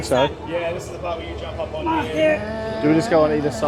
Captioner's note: strained